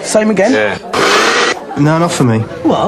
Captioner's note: blender whirs